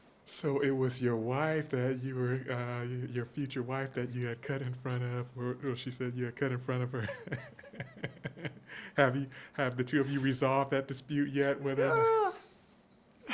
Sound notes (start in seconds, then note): 7.0 chuckles